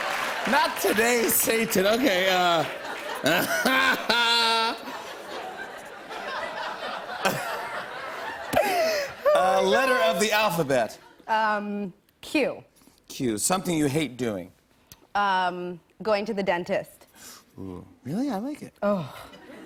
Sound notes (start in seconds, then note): 0.0 laughter; 2.6 laughter